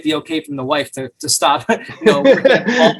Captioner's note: both men laugh